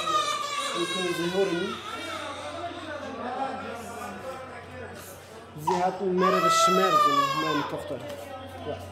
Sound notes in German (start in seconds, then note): 2.3 Das Baby schreit; 4.1 Stimmengewirr